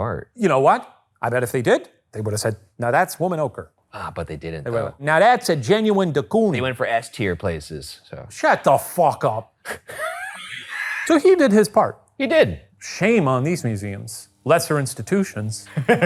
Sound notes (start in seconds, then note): 9.6 laughing; 15.6 laughing